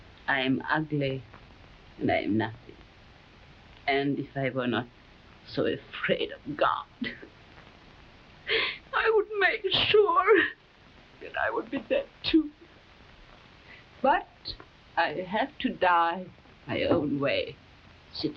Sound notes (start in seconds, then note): 8.5 Camila sobbing